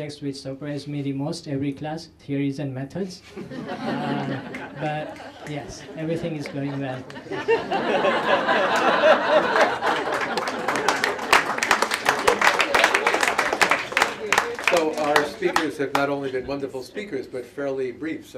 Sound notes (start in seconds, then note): 3.3 laughter; 8.7 applause